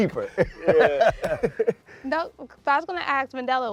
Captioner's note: laughter